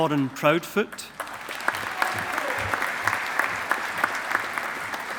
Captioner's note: audience applauding